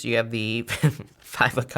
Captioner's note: laughs